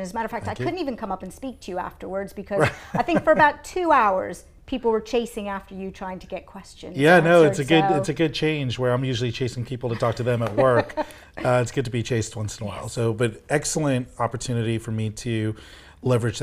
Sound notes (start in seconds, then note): 2.6 laughs